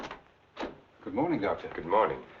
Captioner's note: door rattling